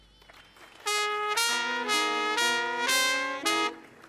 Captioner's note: audience applauding